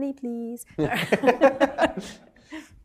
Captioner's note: laughter